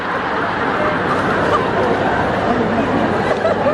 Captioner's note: laughing audiences